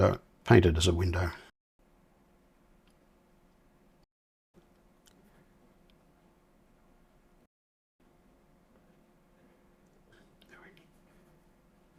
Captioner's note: silence